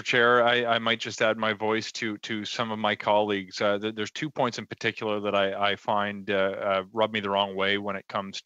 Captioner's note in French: voix de l'interprète